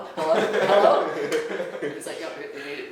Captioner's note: laughing